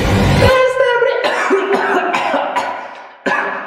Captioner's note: coughing 🤨🤨🤨